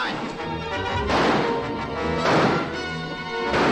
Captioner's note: gunshots